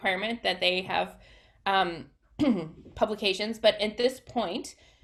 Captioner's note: clears throat